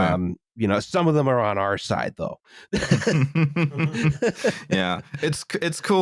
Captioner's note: laughter